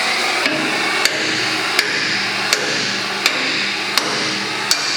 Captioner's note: blow torch blaring; hammer knocking steel